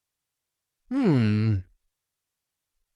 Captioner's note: hums